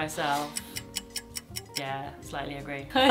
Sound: clock ticking

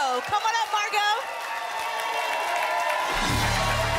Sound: applause and cheering

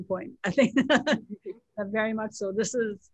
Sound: laughs

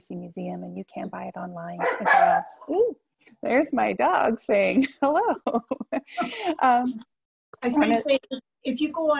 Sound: dog barks; laughs

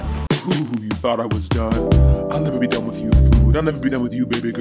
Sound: creepy porn voice

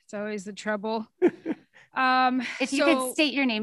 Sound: man laughs

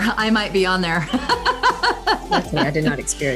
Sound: laughs

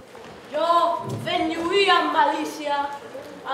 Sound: speaking in Catalan

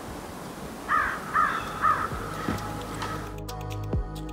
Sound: crow calling

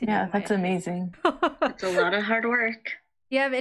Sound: laughs

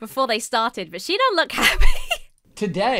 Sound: giggles

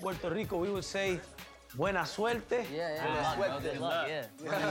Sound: speaks Spanish

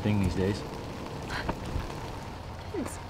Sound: gasping

